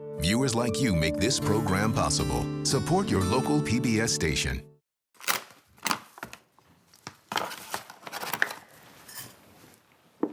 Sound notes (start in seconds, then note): 5.2 paper rustling